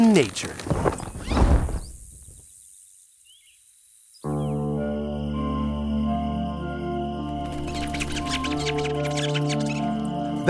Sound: bird and bug sounds

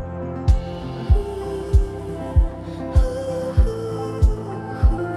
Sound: humming

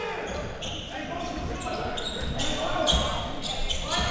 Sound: crowd cheering

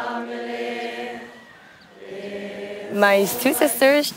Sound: chanting continues

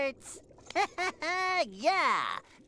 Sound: laughing

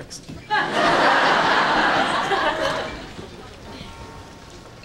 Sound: background laughter

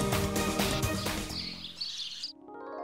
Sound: birds chirping

